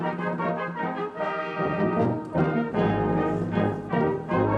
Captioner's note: none